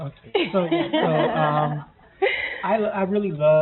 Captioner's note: laughing